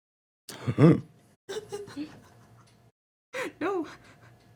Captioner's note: clears throat